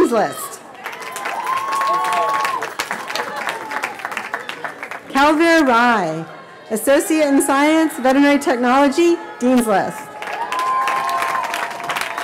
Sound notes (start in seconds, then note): 1.8 cheering